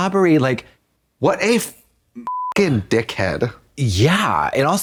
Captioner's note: beep